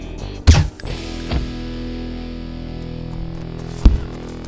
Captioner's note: gunshot